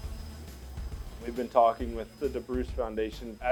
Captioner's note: machine whirs